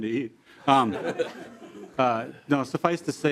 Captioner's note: laughter